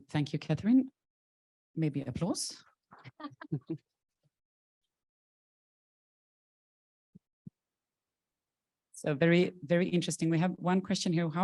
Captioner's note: chuckling